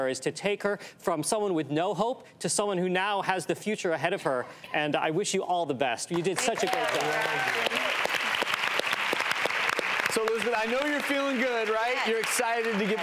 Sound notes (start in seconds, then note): 8.3 applause